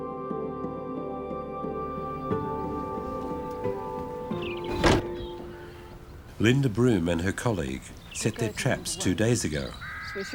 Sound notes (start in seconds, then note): 2.3 birds chirp